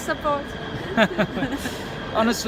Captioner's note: both laugh